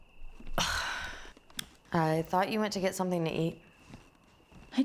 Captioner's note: scoffs